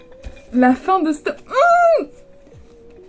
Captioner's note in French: cri étouffé